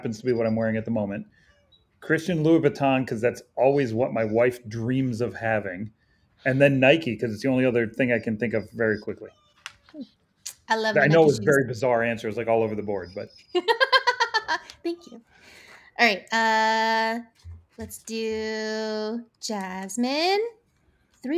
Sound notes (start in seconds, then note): 14.1 laughs